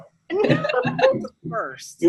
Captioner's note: laughs